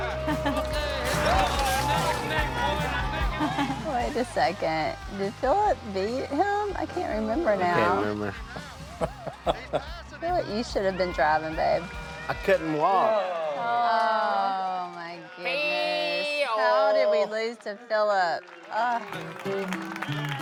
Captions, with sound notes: [group laughing] - Neck and neck. - Wait a second. Did Philip beat him? I can't remember now. - I can't remember. [laughs] - I feel like you should have been driving, babe. - I couldn't walk. [group awing] - Oh my goodness. - Feeeeyooo! How did we lose to Philip? Ugh!